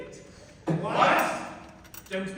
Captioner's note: MEN, angrily